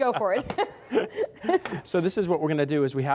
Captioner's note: laughter